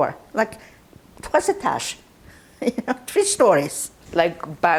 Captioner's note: laughing